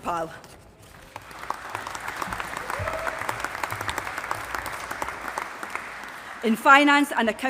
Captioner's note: applause